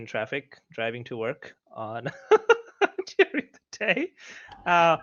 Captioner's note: laughing